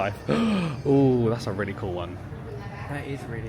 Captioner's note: gasps